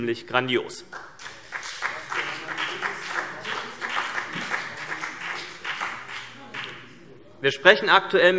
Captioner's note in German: Vereinzelter Beifall CDU und BÜNDNIS 90/DIE GRÜNEN